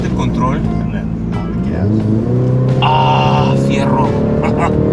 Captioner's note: engine roaring